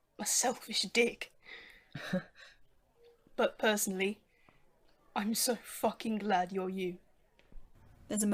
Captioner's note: Remus laughs at that